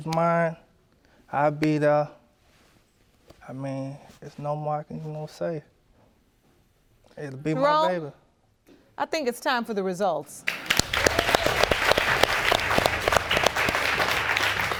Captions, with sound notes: if the baby's mine, I'll be there. I mean, there's no more I can, you know, say. It'll be my baby. Jerome, I think it's time for the results. (AUDIENCE APPLAUDING)